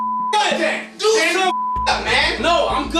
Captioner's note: beep